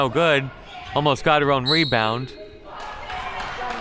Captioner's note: referee blows whistle; crowd clapping